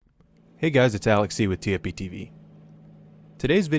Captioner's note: voiceover